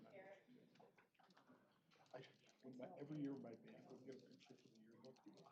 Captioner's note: indistinct chatter